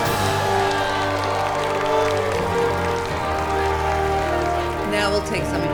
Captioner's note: cheering and applauding